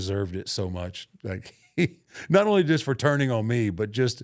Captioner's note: laughs